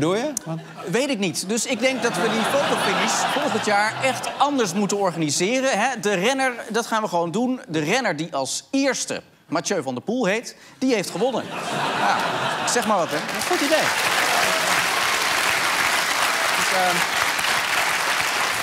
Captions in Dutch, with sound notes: Weet ik niet. Dus ik denk dat we de fotofinish volgend jaar anders moeten organiseren. De renner die als eerste Mathieu van der Poel heet, die heeft gewonnen. Ik zeg maar wat hè. Goed idee. (applaus)